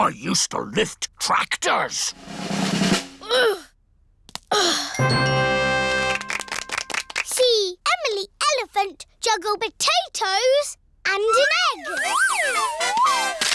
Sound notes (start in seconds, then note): 2.1 drum roll; 3.0 groans